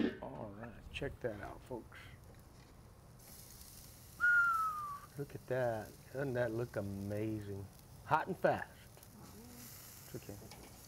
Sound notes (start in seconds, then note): 0.0 metal thudding; 4.2 whistles